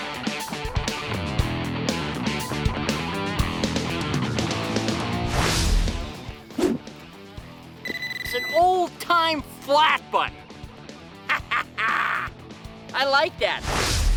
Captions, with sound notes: (beeping) - It's an old time flat button. (laughs) I like that!